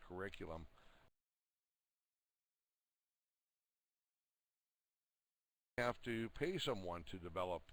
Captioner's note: audio drops